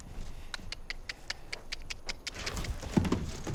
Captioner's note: clicking tongue